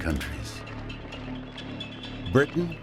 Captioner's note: troops marching